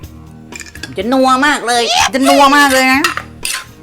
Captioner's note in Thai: เสียง..ยะฮู้ว์